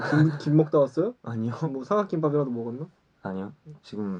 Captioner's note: laughs